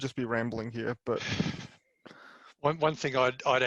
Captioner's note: laughs